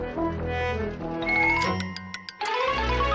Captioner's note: turn signal clicks